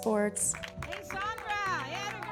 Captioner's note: clapping & cheering